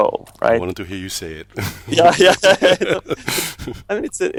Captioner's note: laughs